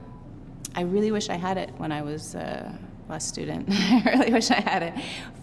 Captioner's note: chuckles